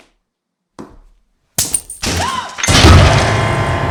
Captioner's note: chain snapping